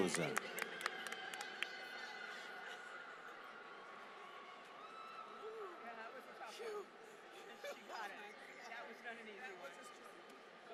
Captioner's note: applause